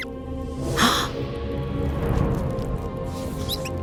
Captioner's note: gasp